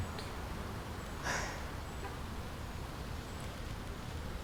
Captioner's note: Laura sighs